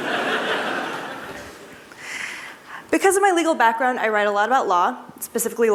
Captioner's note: laughter